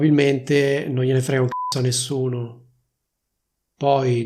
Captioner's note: beep